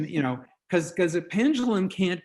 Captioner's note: none